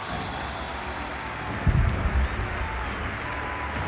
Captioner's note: crowd cheering